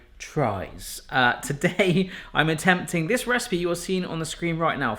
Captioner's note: laughs